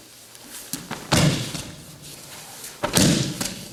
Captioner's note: loud thumping